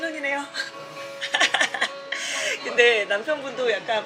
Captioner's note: laughing